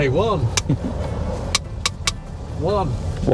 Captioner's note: clapboard clatters